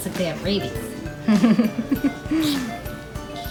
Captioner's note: laughing